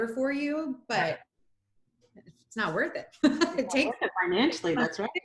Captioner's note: laughs